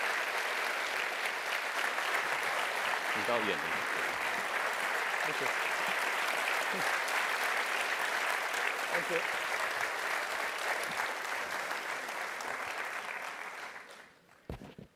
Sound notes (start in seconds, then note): 1.7 applause